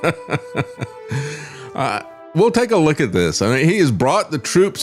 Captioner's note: laugh